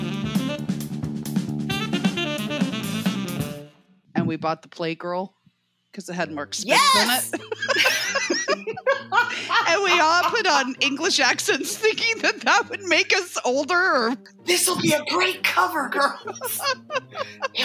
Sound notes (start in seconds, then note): 11.3 giggling; 16.0 giggling